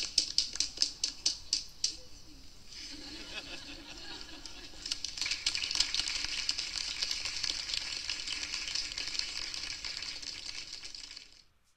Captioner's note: nervous laughter